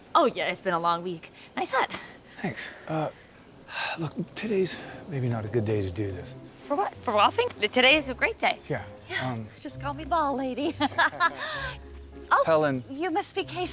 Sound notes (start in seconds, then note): 10.5 laughs